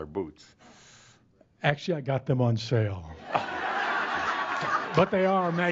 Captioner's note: laughter as reacts with disgust